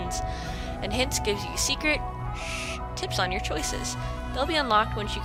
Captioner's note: shh!